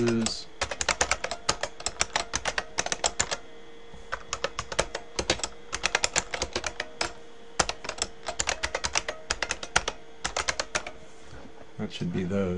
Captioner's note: typing